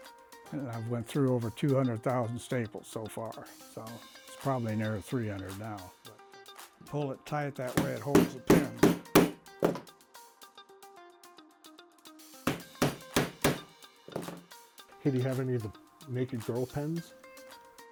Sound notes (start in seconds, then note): 12.4 hammer thuds